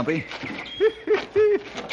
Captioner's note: chuckles